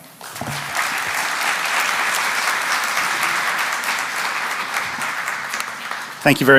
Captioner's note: applause